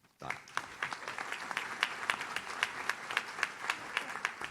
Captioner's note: audience claps